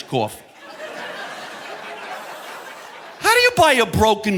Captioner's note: audience laughing